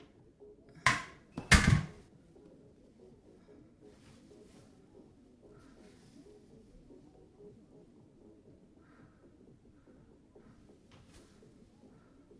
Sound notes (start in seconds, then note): 1.4 the lid clatters shut; 6.9 she breathes while the club music is still audible in the background